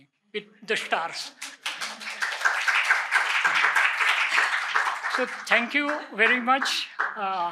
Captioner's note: applause